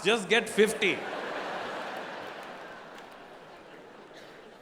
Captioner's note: audience laughing